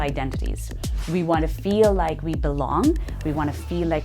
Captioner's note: air whooshing